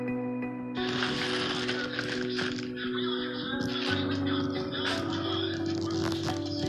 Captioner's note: suspenseful music; TV blares